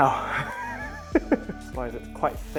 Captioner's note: laughs